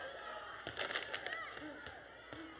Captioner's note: kids cheering in distance